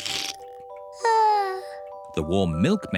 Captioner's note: yawns